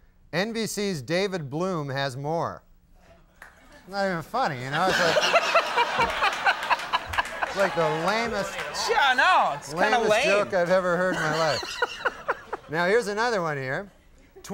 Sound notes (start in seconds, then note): 5.3 Conan explodes with laughter; 6.2 audience laughing; 11.0 Conan laughing